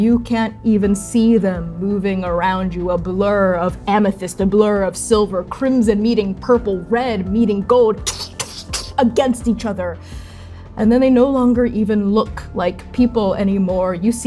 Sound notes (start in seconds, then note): 8.1 rapid clashing